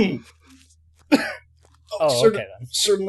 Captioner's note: Markus coughs